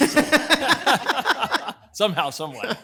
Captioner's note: everyone laughing